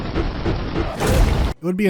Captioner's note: wham